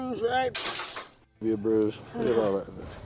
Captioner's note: glass smashing